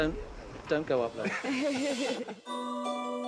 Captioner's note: laughter